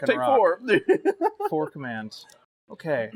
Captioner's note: mirth